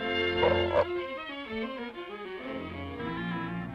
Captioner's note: fish burping; suspenseful music